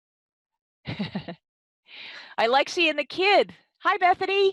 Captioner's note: laughing